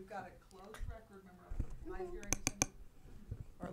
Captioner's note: tapping